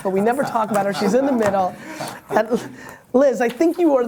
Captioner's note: laughter